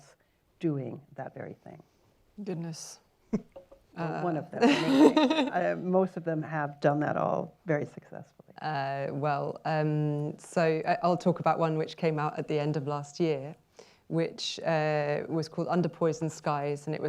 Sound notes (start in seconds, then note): 3.3 chuckles; 4.6 laughter